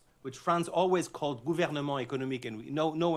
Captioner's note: french